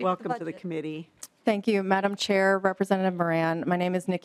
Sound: laughing

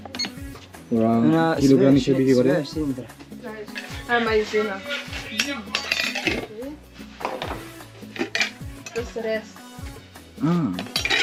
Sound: foreign language

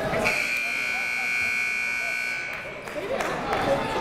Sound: buzzer goes off

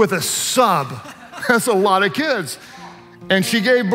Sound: worship leaders laugh

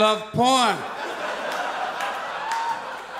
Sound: audience laughs; audience applauds

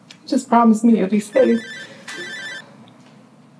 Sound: phone ringing

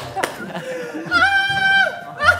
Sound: screams like a pterosaur

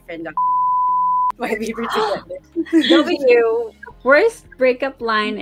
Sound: laughing

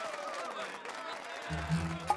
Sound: cheers and applause

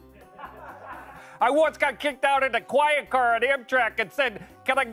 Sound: laughter

